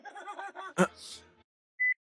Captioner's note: gasp